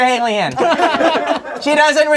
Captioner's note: crowd laughing